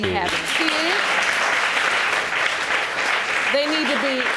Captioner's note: audience applauding